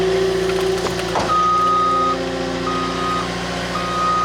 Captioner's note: vehicle beeping